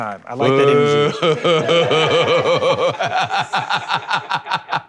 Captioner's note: laughter